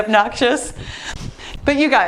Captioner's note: dog barking